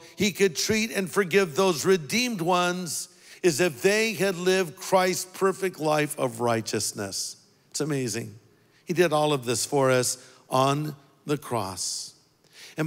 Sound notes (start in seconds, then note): none